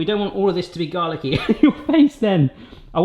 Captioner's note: laughs